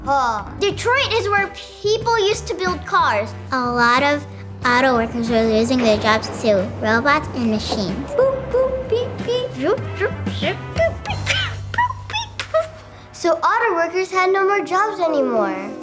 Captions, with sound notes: Detroit is where people used to build cars. A lot of auto workers were losing their jobs to robots and machines. (Boop boop, beep beep) So auto workers had no more jobs anymore.